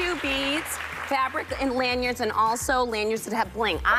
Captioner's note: applause